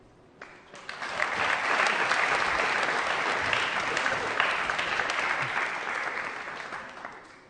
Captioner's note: applause